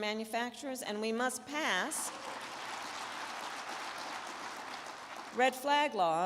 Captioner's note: crowd clapping